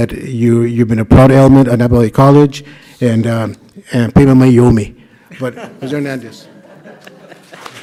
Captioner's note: laughter; clapping